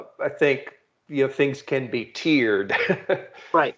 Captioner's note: chuckling